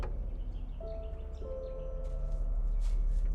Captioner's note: bird chirp